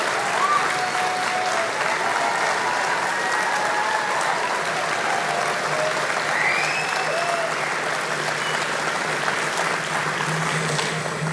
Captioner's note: cheer and applause